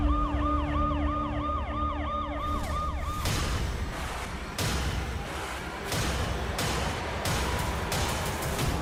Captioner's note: sirens